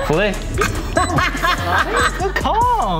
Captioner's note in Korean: 웃음